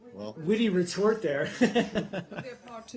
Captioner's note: laughter